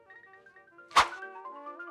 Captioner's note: woosh